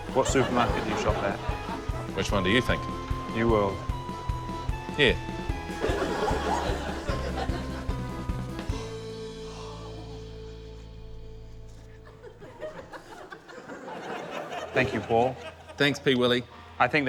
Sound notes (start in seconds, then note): 5.7 laughter; 8.8 gasps; 12.0 laughter